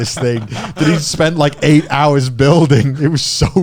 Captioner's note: chuckling